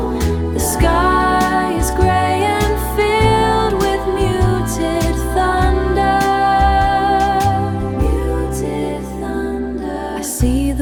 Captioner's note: muted thunder